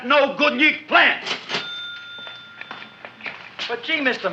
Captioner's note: cash register dings